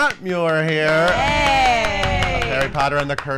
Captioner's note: clapping